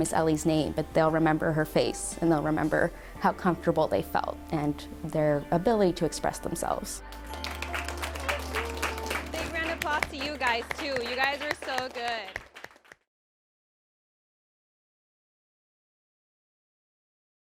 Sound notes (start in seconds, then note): 7.1 applause